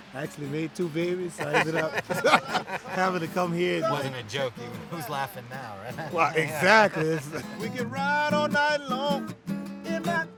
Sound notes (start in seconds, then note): 1.3 all laughing; 5.7 laughter